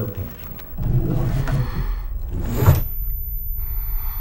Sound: breathing loudly

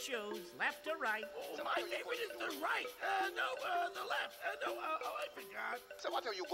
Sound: stammering

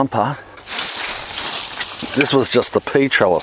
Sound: foliage rustles

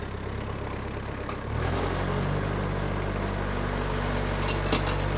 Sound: telehandler engine rumbling

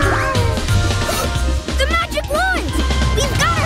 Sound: gasping

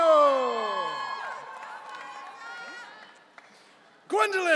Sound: audience cheering

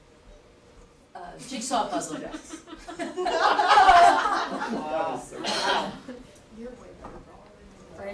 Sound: laughter

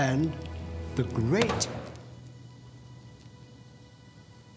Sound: hand banging

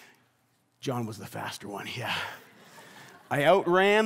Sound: congregation laughs

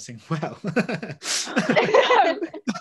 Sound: laughs; all laugh

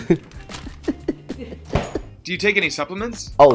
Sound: laughs

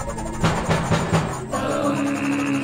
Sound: knocks on the door

